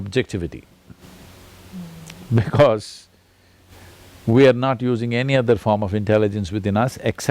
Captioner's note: laughs